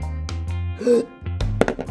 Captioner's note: breathes in and holds breath; light thud/drop sound